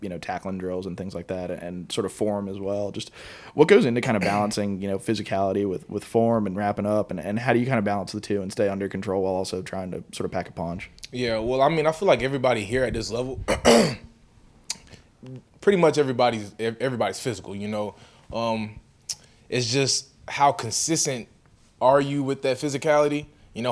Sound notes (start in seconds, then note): 13.4 clears throat